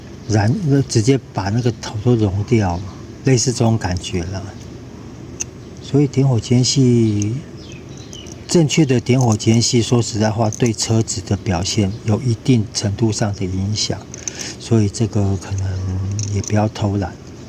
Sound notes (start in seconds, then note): 13.7 engine